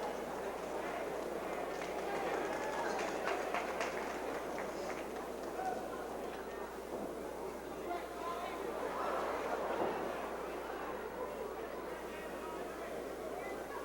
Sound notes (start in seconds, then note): 1.5 crowd member clapping; 9.7 crowd exclaims